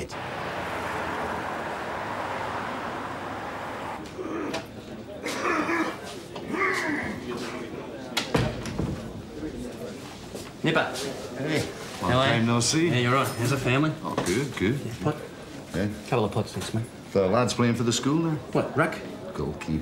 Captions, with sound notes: (MAN COUGHS LOUDLY) Nipper. Hey. How are you? Long time, no see. How’s the family? Oh, good, good. Pot? Couple of pots, thanks, mate. Lad’s playing for the school now. What, ruck? Goalkeeper.